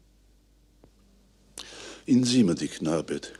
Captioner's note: sigh